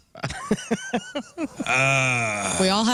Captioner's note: laughing